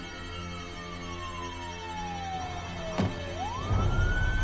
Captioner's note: siren wailing